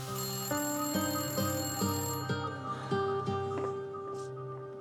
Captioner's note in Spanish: Suena el teléfono